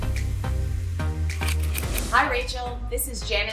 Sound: scissors snipping

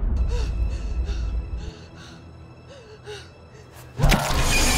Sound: panting; squishing

